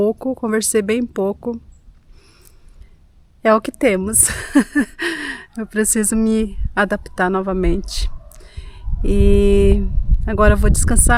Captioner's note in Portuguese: risadas